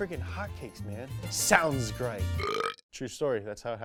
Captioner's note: burps